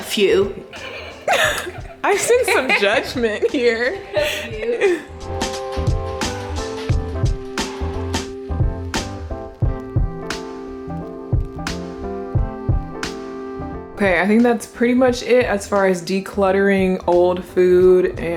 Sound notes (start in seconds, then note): 0.7 laughing; 5.8 mellow music